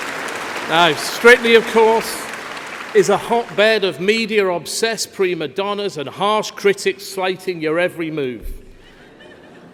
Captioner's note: laughter